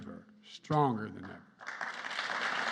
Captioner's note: applause